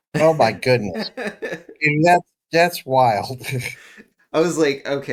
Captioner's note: laugh; laugh